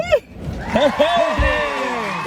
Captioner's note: audience applauding